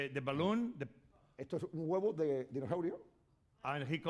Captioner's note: speaking spanish